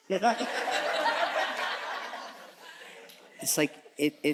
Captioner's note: audience chuckles